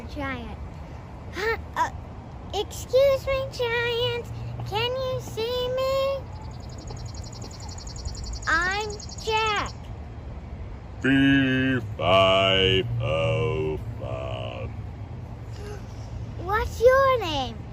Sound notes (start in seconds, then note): 2.4 calling up to giant